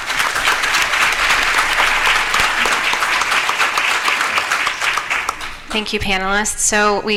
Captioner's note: applause